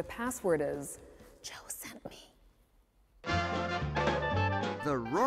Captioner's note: whispering